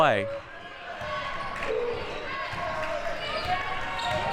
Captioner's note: clapping